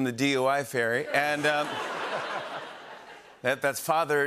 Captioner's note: laughter